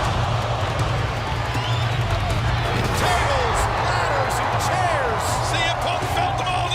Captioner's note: crowd cheering